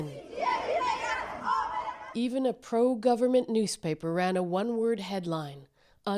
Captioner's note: chants